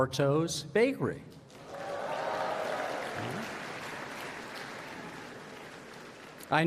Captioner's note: applause